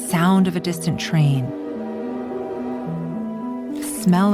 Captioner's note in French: train qui siffle